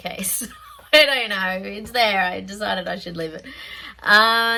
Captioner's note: laughs